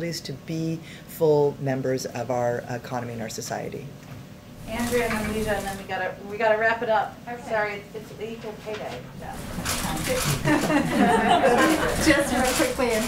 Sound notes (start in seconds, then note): 10.4 laughter